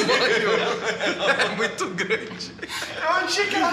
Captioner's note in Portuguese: risos